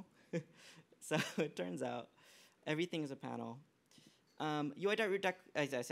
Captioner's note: laughs